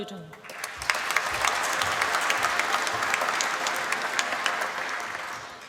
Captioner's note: applause